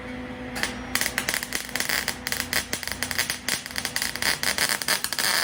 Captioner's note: buzzing